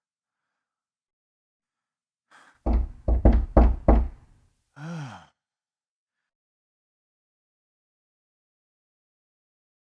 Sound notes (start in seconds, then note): 2.6 door knocking